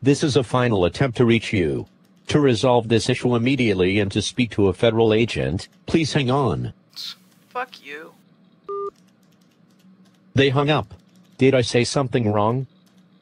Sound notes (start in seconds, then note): 7.0 on phone; 8.7 hangup beep